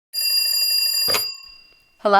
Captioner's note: telephone ringing